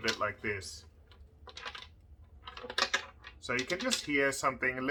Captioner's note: rolling sound